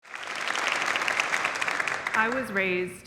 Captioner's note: crowd clapping